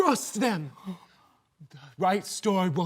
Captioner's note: soft breathing